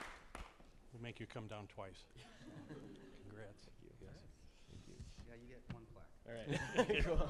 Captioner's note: applause